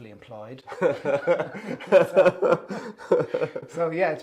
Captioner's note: both laughing